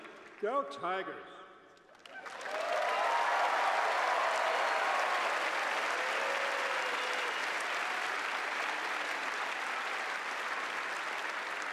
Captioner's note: cheers and applause